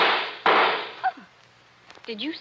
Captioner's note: gunshots